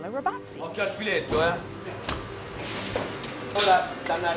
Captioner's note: speaking italian